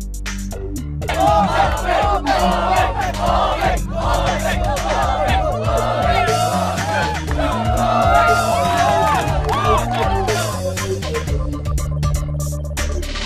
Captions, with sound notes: [crowd] Omeng! Omeng! Omeng! [crowd] Omeng! Omeng! Omeng! [crowd cheering]